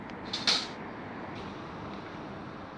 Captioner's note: sound trap door closing